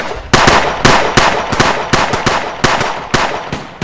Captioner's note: guns shoot